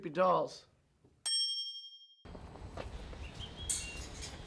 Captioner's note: bell rings